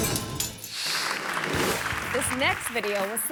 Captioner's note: audience clapping